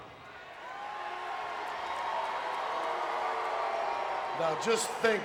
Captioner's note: crowd cheering